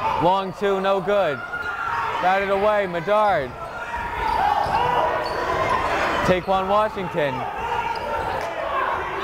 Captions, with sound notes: Long two no good, batted away, Medard. (yelling) Taequann Washington.